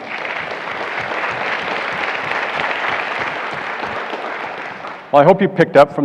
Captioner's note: applause